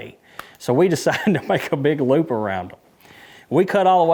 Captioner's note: laughing